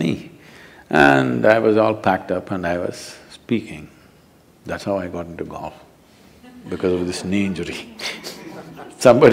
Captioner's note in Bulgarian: смехове в публиката; смях